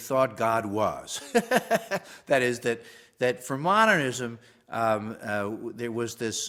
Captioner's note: laugh